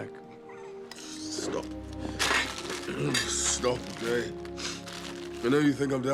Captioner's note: sniffs